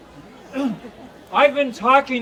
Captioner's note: clears throat